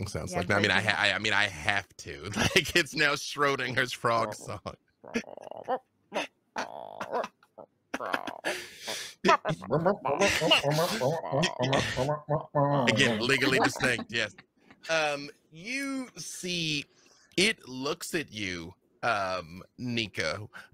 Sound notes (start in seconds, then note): 5.4 Niko croaks